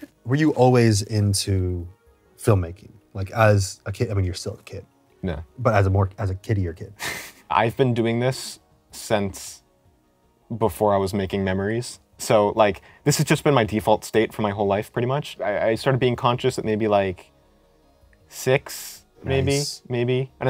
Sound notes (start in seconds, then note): 6.8 laughs